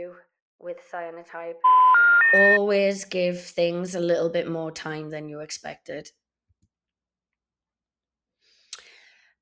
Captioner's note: phone dial tone